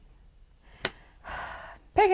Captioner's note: sigh